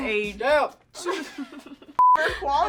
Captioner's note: laughing